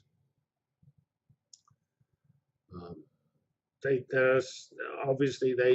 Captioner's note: pause